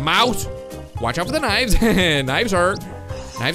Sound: laughs

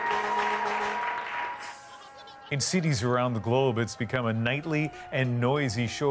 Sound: cheers and Applause

